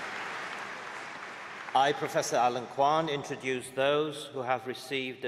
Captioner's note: applause